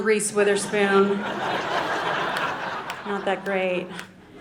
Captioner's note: audience laughing